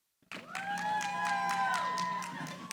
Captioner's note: cheering